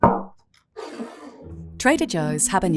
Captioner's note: bottle thuds and scrapes